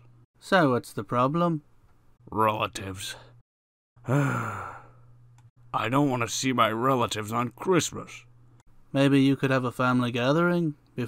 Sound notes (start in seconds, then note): 4.0 sigh